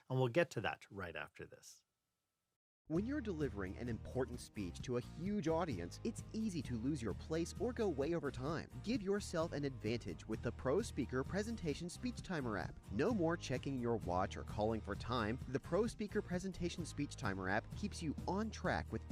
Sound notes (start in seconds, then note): 2.9 voiceover